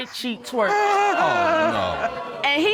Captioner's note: audience exclaims